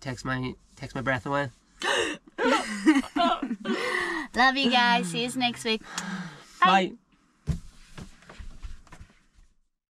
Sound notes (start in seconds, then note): 1.3 gasps; 2.4 laughter